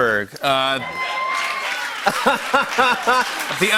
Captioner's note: cheers and applause